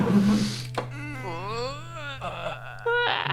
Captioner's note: grunting